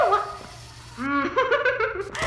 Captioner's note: laughs